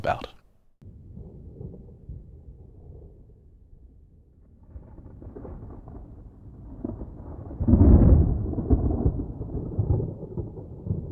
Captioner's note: sounds of a thunderstorm can be heard